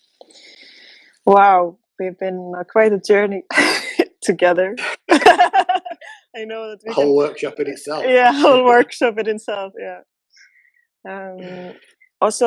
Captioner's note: laughter